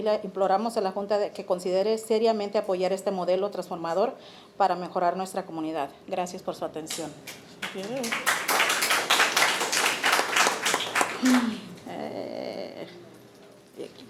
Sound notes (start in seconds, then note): 7.2 audience applauding